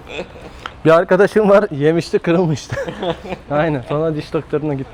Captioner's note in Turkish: kahkaha